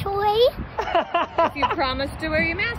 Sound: laughs

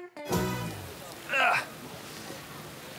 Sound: grunt

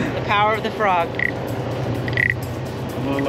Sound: wood rubbing

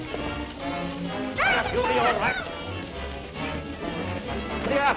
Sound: screaming

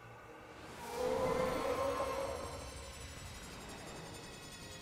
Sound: Xerneas growling

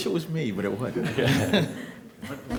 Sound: laughter

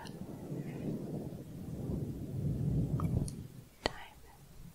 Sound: windy sounds

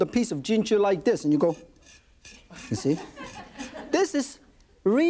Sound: knife scraping

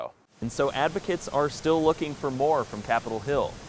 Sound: voiceover

